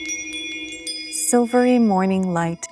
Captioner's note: bells chime